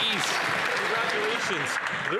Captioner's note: applause